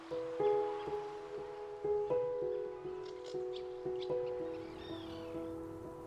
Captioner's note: water rushing; birds singing; peaceful piano music